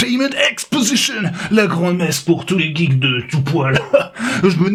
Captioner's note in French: rire